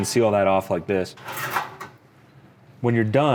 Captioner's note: metal clanking